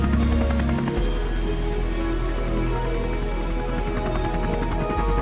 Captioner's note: helicopter blades whirring